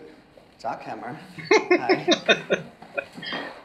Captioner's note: laughing